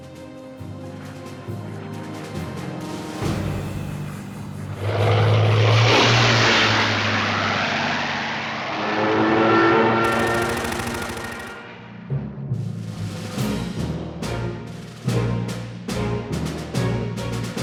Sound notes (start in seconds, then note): 0.0 upbeat music; 5.1 aircraft engine roars; 10.0 gunshot fire; 14.1 dramatic music